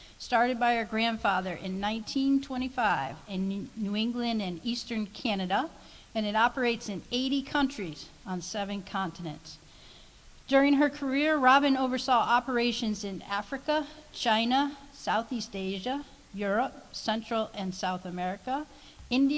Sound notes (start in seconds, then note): none